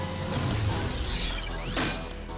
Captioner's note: energy whirs